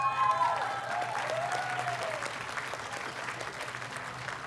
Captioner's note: audience cheers and applauds